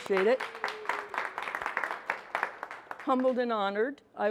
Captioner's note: attendees applaud